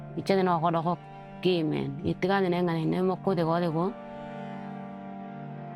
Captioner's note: speaking in foreign language